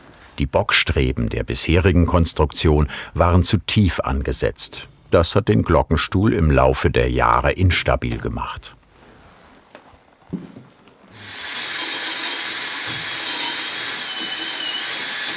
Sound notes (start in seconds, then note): 11.1 whirring